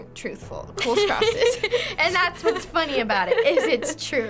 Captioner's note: giggles